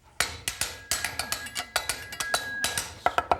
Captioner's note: tapping